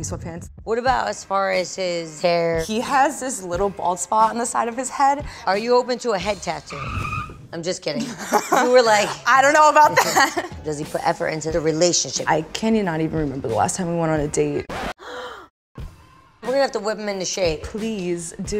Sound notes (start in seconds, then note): 4.8 screeching brakes; 12.4 record scratch